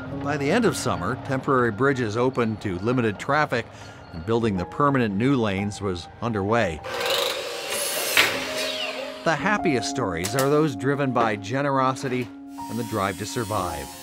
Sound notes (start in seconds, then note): 6.8 electric saw whirring